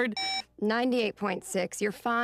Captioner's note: thermometer beeps